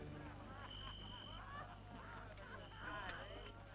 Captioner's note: men reveling